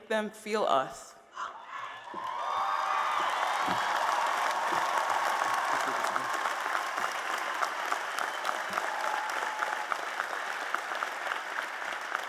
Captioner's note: applause and Cheers